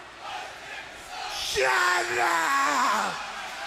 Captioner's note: crowd cheering